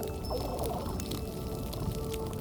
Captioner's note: fish burbling